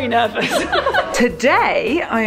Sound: laughing

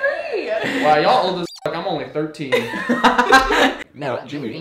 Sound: squeaking; laughing

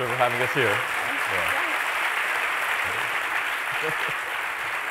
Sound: applause

